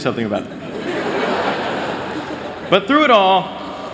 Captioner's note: laughter